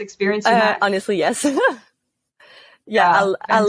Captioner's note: laugh